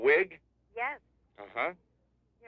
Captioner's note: on phone